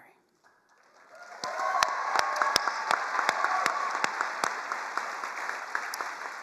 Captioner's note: all cheering and applauding